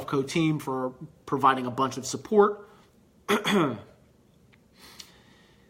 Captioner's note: clears throat